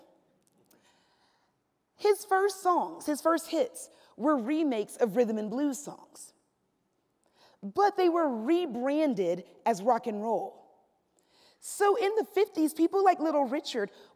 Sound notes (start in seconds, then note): none